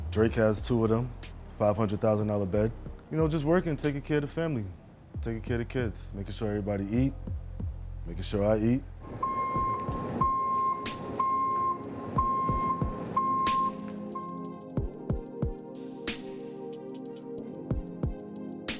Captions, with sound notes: Drake has two of them, $500,000 bed, you know, just working taking care of the family, taking care of the kids, making sure everybody eat, making sure I eat. (horn honking) (soft music)